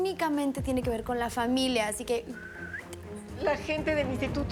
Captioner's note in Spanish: Silbido